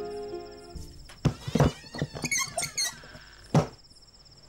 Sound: door creaks

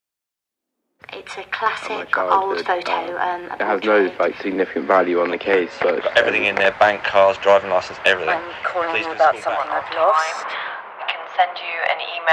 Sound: different voice messages playing from recorder

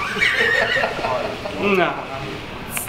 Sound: everyone laughs

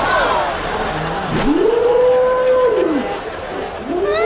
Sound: slow-motion screaming; slow-motion crying

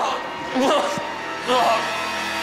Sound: groans

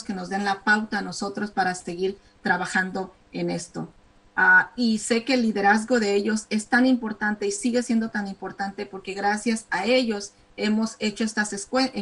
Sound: speaking spanish

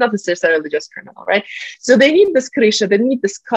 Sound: russian

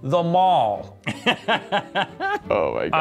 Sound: laughing

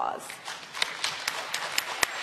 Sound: applause

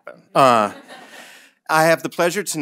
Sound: audience laughing

